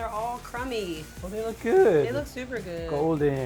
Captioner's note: bread crumbs rustling